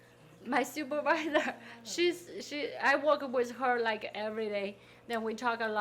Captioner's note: laughing